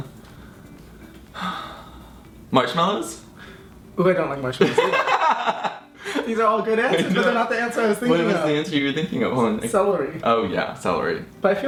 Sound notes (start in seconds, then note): 1.3 sighs; 4.7 laughing